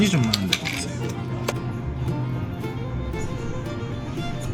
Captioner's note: chugging it down